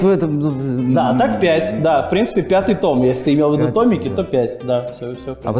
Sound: voice-over

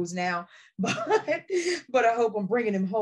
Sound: chuckles

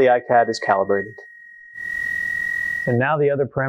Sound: high pitched hum

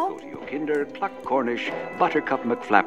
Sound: radio Announcer

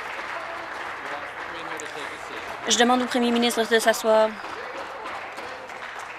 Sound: applause

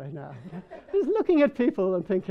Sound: people laughing

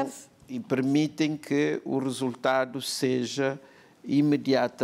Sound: speaking portuguese

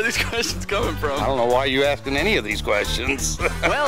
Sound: laughing; laughing

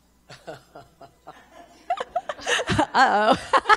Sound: all chuckling

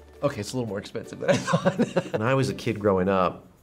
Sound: chuckles

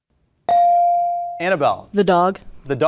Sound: beep

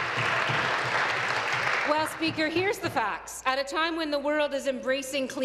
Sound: applause

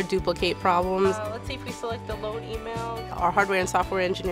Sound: speaking on phone

